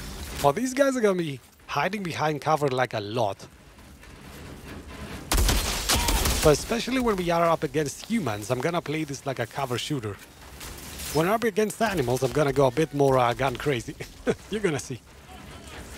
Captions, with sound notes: These guys are going to be hiding behind cover a lot. Especially when we're up against humans, I'm going to play this like a cover-shooter. When I'll be against animals, I'm going to go a bit more guns-crazy [laughs]. You're going to see.